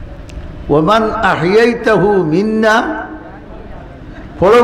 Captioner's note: Arabic